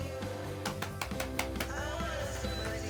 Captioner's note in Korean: 셀프 박수